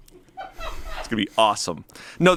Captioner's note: crew laughs